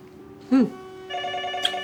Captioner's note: phone ringing